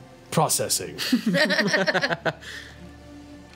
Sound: group laughs

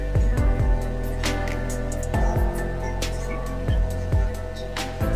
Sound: clap

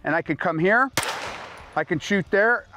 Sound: gun shot

